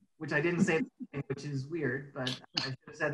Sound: laughs

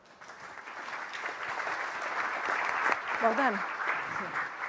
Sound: applause

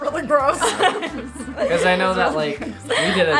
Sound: laughing

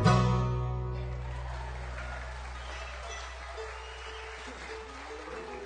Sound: applause, cheering

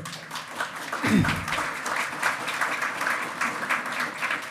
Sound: loud clapping

